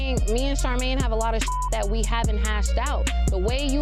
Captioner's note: beeps